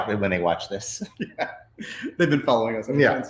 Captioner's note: laughs